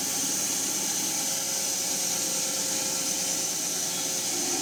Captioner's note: mill whirring